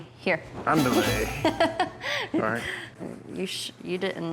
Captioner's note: laughing